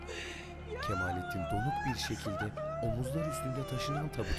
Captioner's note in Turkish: Kadın ağlama sesi